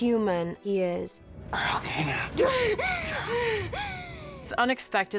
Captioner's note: gasping